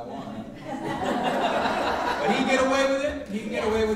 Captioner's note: audience laughing